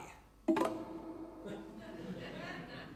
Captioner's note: grindr pings